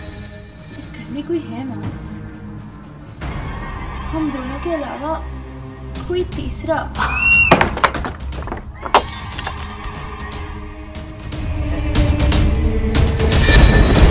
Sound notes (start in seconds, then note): 7.0 screaming